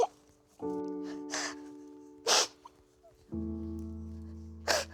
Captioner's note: sobbing